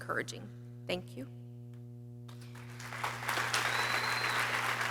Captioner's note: people cheering